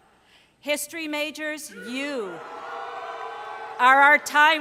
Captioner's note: cheering